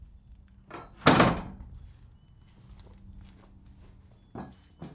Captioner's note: wood banging